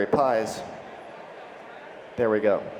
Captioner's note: crowd conversing in background